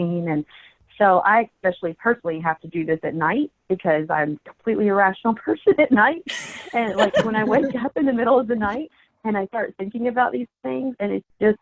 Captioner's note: laughter